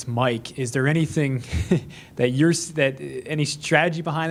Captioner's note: laughs